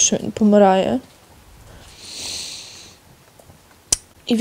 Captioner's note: sighs